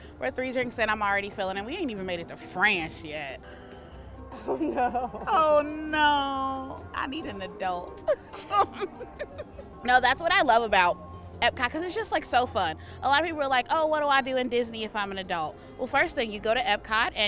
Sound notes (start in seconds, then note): 8.0 laughing